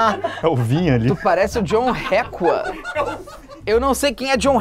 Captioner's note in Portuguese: risadas